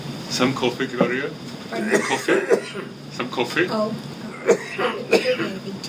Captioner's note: coughing